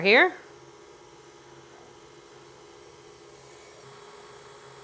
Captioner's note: mixer whirring